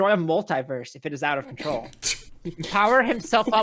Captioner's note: small giggles from everyone